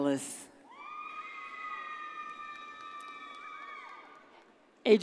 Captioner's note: audience cheers